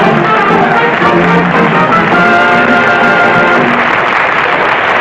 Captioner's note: applause